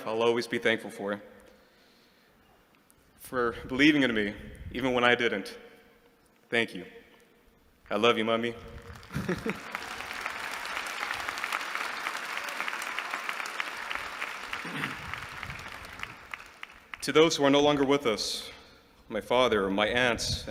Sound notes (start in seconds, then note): 8.7 applause